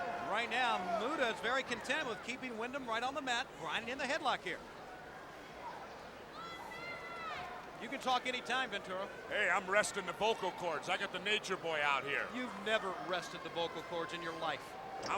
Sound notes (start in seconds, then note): 6.3 crowd chattering